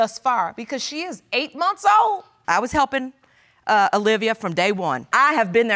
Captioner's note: none